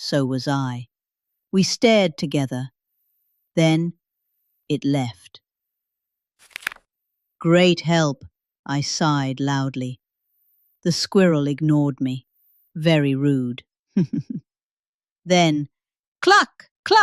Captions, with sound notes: So was I. We stared together. Then... It left. [rustles] "Great help." I sighed loudly. The squirrel ignored me. Very rude. [giggles] Then... Cluck!